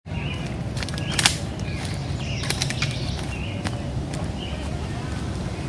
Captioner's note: birds chirping; twigs snapping